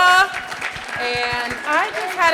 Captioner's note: audience applauding